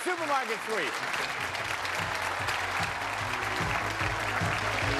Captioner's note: applause